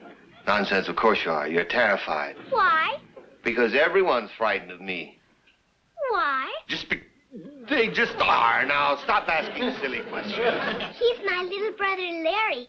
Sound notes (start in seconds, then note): 7.0 stammers